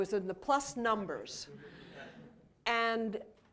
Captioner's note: laughter